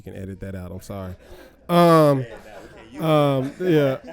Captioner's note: laughs